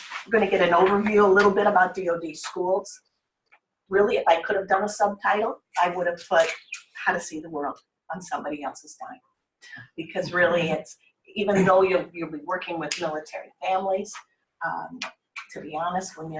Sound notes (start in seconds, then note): 10.2 laughter